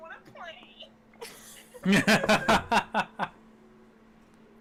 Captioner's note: laughing